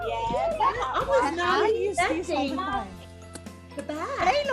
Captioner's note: group chattering